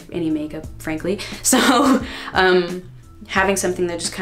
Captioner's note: laughing